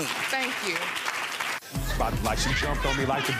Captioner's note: audience applauding